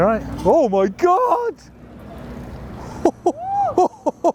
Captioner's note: laughing